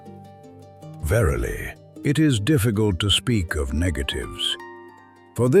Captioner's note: thoughtful